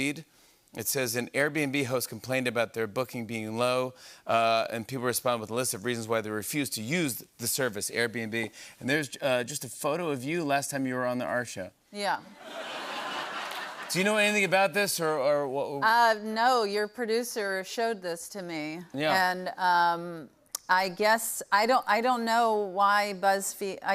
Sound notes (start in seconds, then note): 12.3 laughter